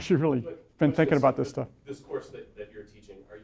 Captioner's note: voiceover